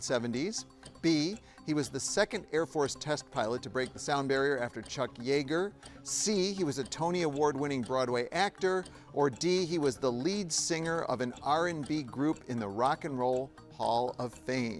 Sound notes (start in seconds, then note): none